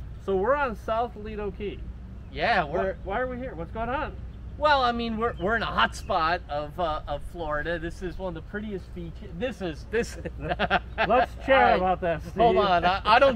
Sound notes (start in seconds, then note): 9.8 laughs